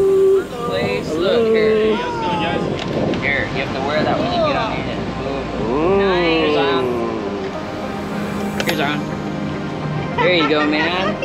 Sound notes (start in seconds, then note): 6.1 exclaims; 10.2 laughs